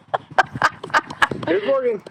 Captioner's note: laughing